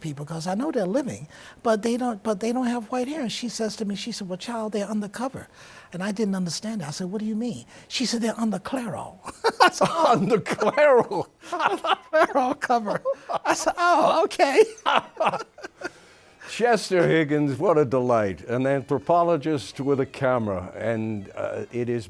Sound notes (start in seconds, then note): 11.0 laughs; 13.1 laughs; 16.6 laughs